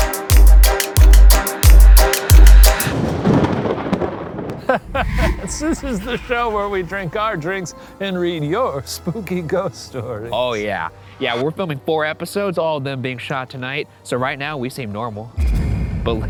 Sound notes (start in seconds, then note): 2.3 thunder cracks; 4.5 chuckles